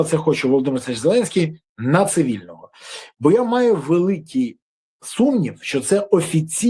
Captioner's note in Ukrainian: сопіння